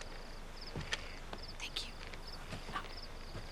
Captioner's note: whispers